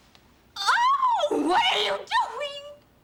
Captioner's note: screams